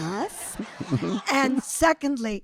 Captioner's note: audience laughing